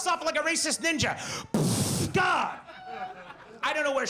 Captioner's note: mimics explosion boom